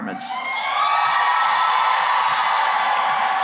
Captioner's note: cheering and applause